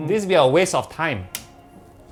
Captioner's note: clicks